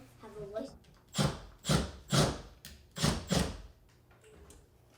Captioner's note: kid chattering; drill drilling